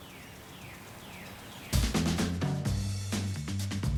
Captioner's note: snapping; birds chirping